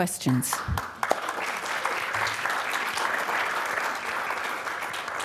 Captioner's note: applause